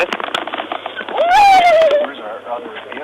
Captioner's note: screams